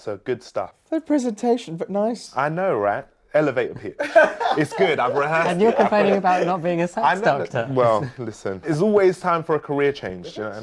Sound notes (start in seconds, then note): 3.9 laughing